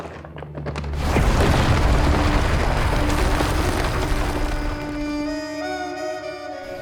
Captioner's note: rocks shower; bag rustles; object thuds